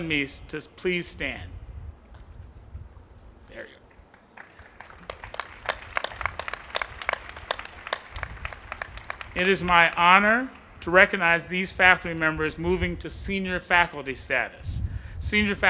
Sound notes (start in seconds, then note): 4.0 applause